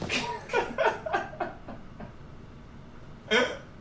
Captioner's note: laughs